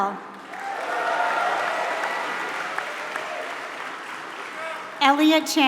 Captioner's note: applause